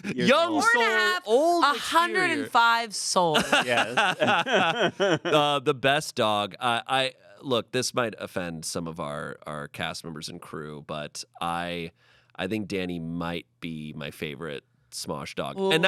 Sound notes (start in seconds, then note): 3.3 everyone laughs